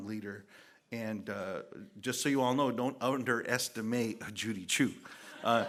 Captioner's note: laughter